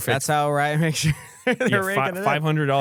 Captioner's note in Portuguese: risos